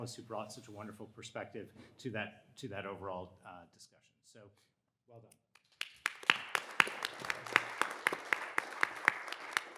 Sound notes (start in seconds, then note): 5.6 all applauding